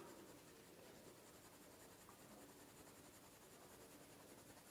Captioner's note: pencil scratching